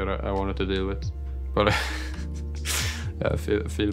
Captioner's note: laughs